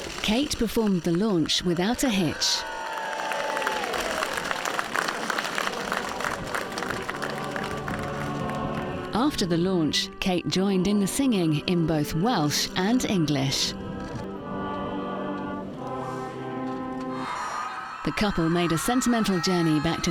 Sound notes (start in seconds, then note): 2.9 crowd cheers